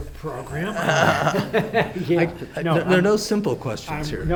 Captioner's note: all laugh